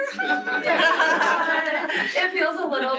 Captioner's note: laughter